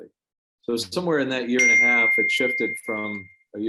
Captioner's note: phone beeping